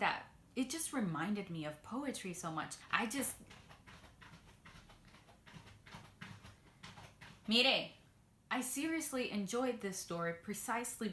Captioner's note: cat scratching sounds